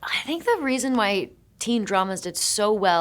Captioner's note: none